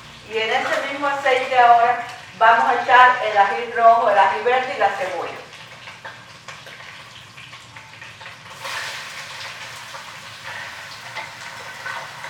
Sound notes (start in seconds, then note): 8.6 sizzle